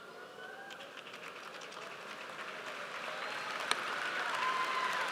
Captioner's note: audience applauds